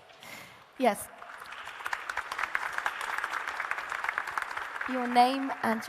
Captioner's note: audience applauding